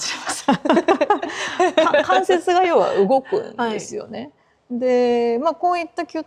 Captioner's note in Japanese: 笑い